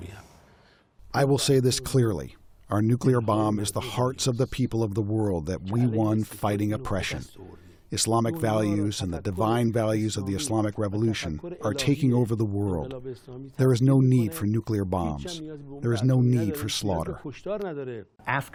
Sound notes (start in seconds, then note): 1.8 through translator